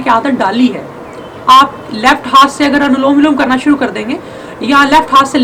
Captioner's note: alternate nostril breathing